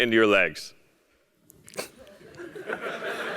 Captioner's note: laugh